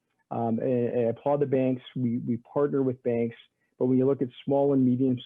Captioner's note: stammering